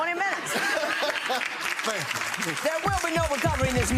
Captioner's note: audience applauding